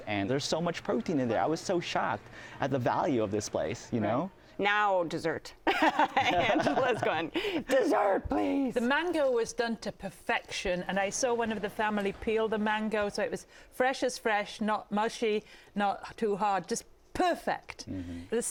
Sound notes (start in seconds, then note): 5.7 laughs